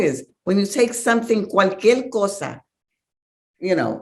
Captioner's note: speaks Spanish